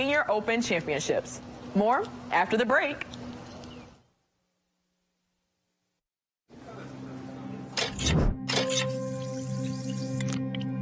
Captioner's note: overlapping chatter; clicks